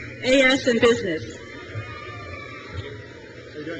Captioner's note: crowd cheers